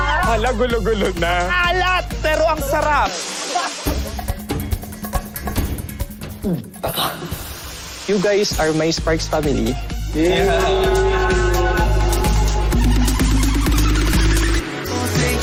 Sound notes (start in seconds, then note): 3.8 upbeat music playing; 10.8 chuckling; 14.7 theme music playing